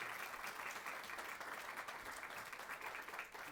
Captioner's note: applause